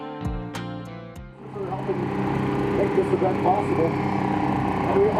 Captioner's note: music fades out; engine sounds fade in